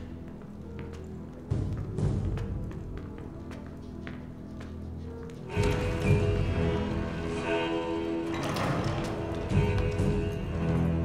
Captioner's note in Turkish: Adım Sesleri